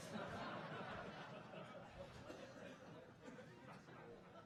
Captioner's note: audience laughing